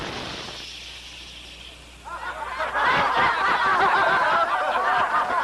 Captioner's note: laughter